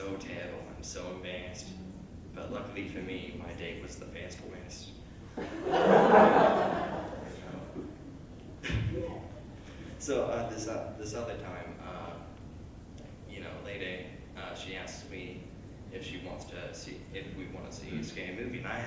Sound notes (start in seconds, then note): 5.3 laughter